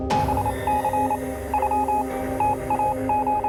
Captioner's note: beeping